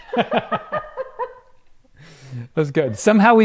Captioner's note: both laugh